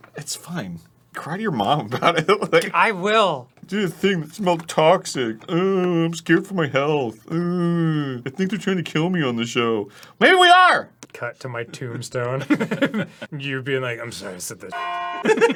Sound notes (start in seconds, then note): 3.7 mockingly; 7.3 feigning whining noises